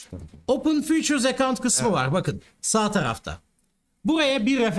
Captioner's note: explaining in Turkish